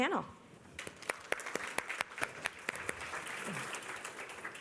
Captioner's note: applause